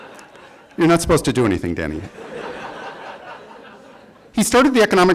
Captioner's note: laughter